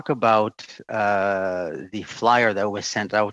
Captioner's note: speaking French